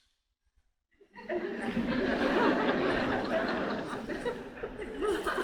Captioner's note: audience laughing